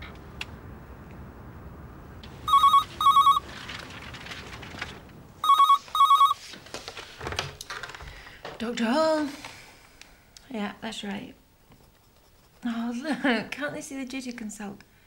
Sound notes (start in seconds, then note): 2.4 phone ringing; 9.2 sighs softly